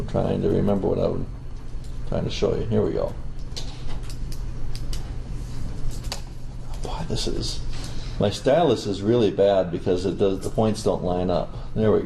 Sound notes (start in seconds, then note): 4.6 stylus clacking